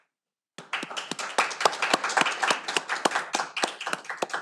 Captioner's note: audience applauding